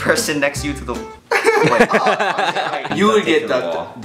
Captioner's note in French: Rires